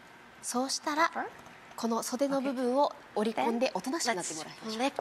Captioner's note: speaking foreign language